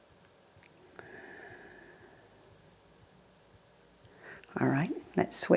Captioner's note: exhales deeply